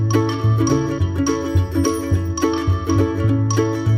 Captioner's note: sparkle noise